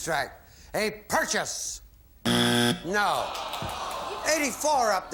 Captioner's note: buzzer